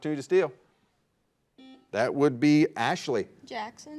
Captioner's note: buzzer buzzes